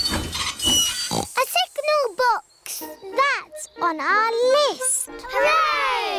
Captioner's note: tinging; oinks